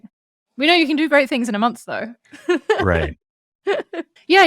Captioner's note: laughs